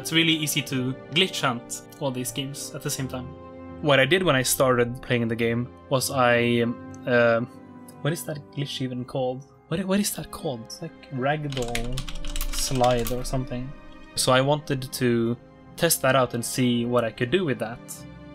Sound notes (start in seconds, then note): 11.5 typing noises